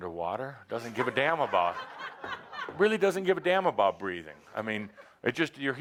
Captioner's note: laughter